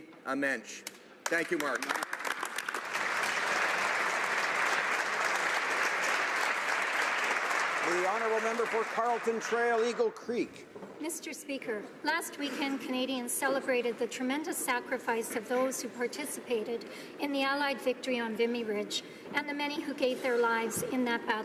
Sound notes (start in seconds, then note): 8.8 applause